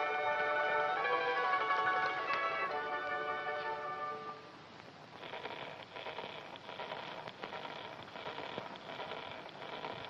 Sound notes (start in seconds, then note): 5.1 scratching